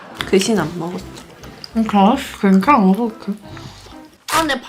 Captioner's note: gnawing